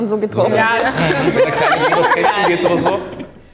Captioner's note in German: lachen